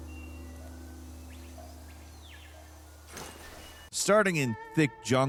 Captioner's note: birds chirping